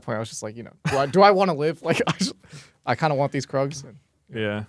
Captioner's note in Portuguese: risos